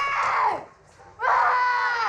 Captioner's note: screams